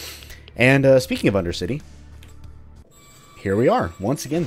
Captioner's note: gate squeaks